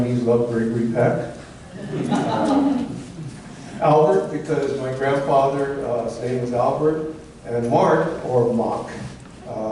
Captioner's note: laughter